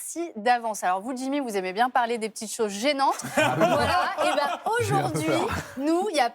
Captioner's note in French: rires